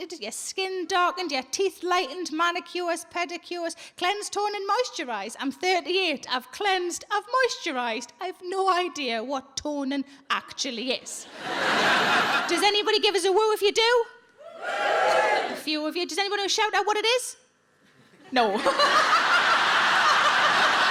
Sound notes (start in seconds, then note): 11.2 audience laughs; 18.5 audience laughs; 18.6 laughs